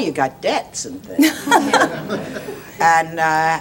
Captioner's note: laughing